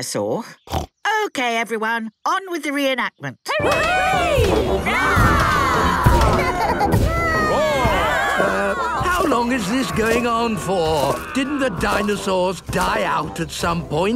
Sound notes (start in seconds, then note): 0.6 snorts; 3.6 cheering; 6.2 roarings, giggling